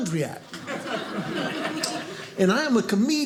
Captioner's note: audience laughing